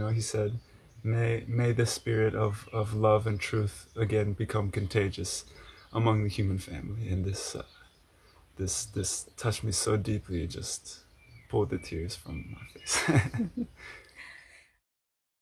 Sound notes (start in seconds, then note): 12.8 lacht